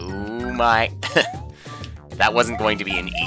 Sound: laughs

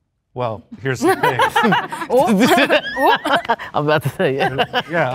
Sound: group laughing

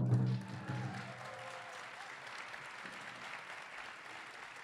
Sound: audience applauding

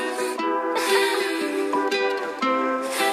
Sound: ha ha ha

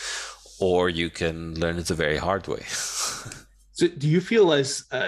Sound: laughing

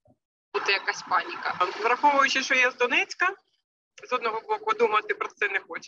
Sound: speaking in foreign language

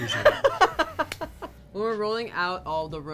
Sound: laughs

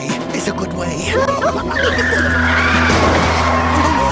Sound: freaking out, Car crashes

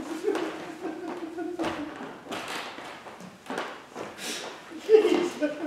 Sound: laughter

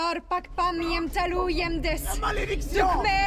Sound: incantations

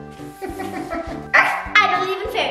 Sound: laughs

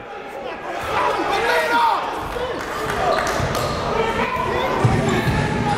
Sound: cheering and yelling

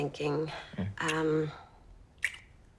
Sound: kisses

